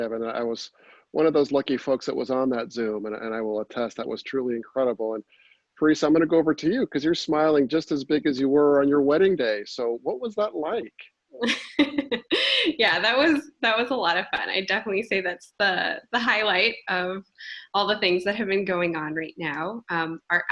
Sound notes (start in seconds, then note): 11.4 laughter